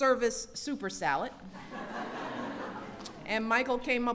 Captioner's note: laughter